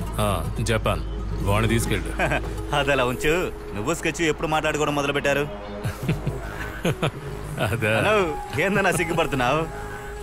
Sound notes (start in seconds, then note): 2.1 chuckles; 5.8 laughs